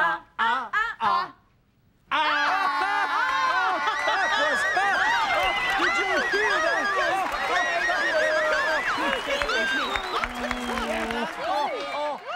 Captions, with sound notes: ( cheering and applause ) THAT WAS FUN! ( cheering and applause continue )